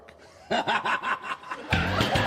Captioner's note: laugh track, stinger plays - cut off abruptly; Kramer cackles